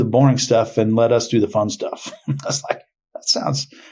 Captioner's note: laughing